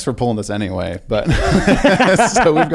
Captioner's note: both laugh